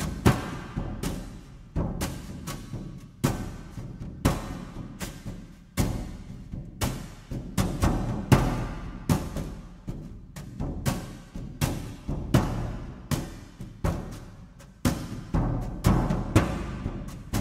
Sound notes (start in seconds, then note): none